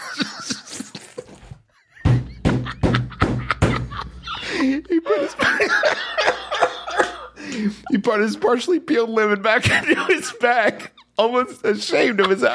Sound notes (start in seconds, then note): 0.0 pained laughter; 2.0 pounds on table; 4.1 more pained laughter; 7.3 gasp